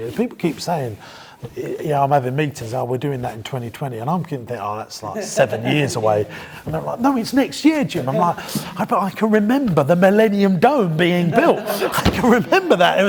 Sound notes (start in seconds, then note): 5.8 laughing